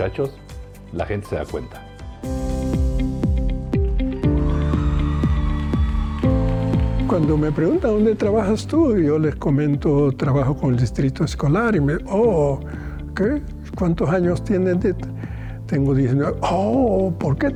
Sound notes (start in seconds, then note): 4.2 audience cheering and applauding; 7.1 speaking in foreign language